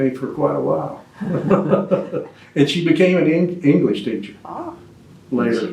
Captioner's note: laughs